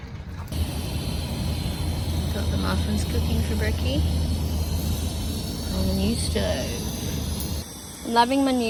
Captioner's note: gas stove hisses loudly